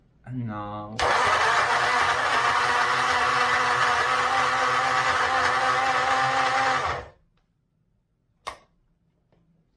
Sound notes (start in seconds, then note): 1.0 blender whizzes